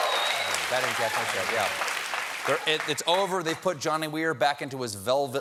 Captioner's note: applause